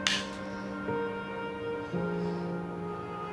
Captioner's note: sighs